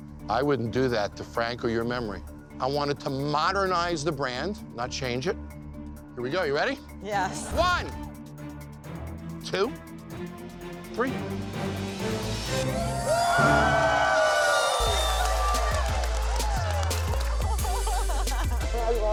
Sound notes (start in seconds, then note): 0.0 energetic string music; 11.9 suspenseful string music; 12.6 crowd cheering; 14.8 upbeat hip hop music